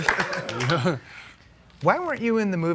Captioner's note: durant chuckling